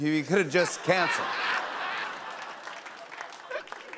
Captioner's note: laughter